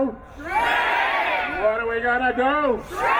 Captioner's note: crowd